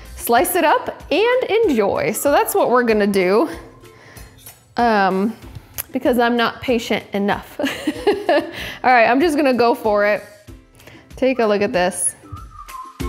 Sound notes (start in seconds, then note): 7.6 laughing loudly